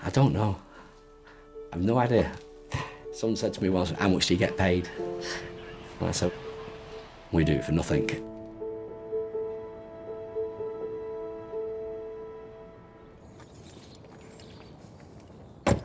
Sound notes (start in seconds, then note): 2.5 chuckles; 8.5 gentle music; 13.0 birds chirping; 13.3 keys jingle; 15.6 door thuds